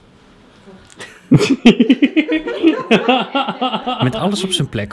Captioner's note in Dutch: lachen